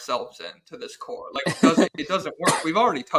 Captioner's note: laughs